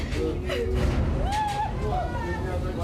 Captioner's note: cries; explosion